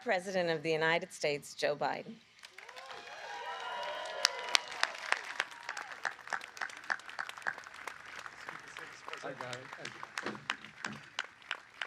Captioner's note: applause